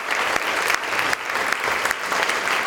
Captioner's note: audience applause